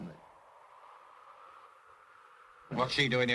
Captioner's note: wind blows